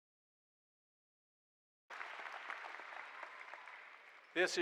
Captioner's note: applause